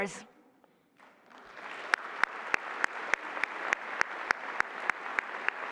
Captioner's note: applause